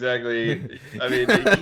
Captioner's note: laughing